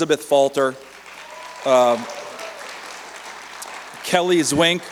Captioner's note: cheers and applause